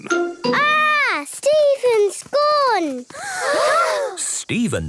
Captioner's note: gasps